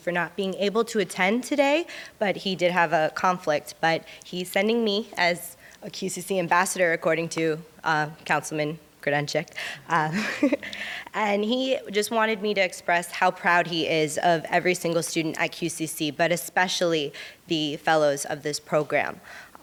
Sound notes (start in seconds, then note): 10.1 laughs